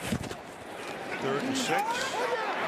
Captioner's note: scuffling